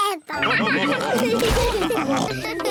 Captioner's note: all laugh